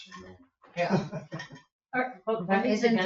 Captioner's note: people chuckle